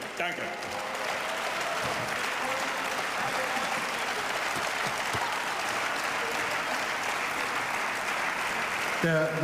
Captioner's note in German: Beifall